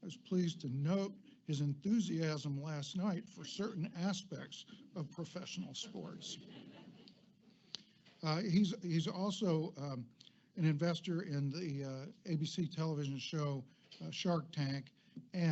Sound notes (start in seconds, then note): 5.6 audience laughs